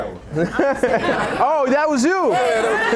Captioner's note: laughing